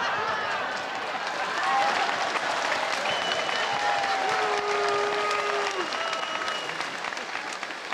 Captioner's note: laughter, applause, and heckling